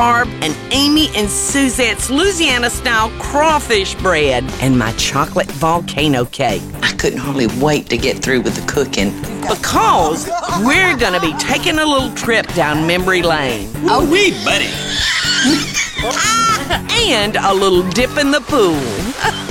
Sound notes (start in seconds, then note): 14.4 laughing